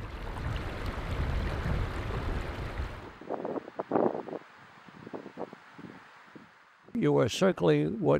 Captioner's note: water rushing